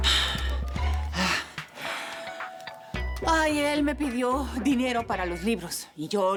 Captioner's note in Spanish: Ruido al marcar